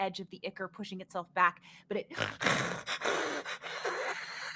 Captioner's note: hisses